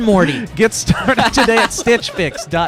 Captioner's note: laughing